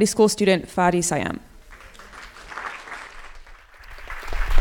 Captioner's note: applause